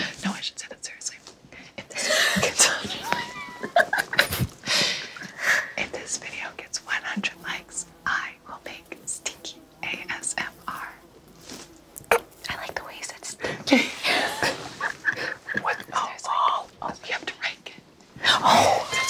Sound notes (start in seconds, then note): 2.0 laughs; 3.0 everyone laughs; 13.9 everyone laughs